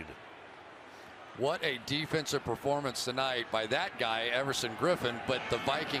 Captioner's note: booing